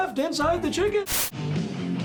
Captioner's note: static; heavy metal music